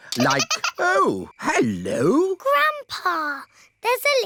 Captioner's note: giggling